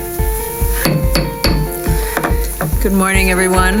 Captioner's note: gavel pounding